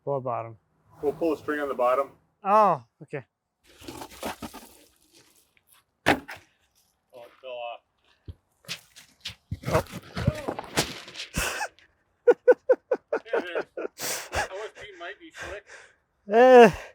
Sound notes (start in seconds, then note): 11.4 gasping; 12.2 laughing